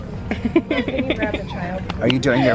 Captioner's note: laughs